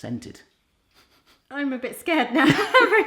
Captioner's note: sniffs